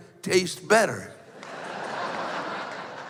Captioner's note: laughter